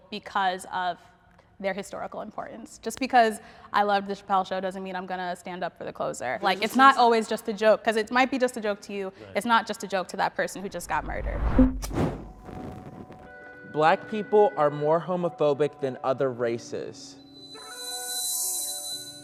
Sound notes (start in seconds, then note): 10.6 logo whooshing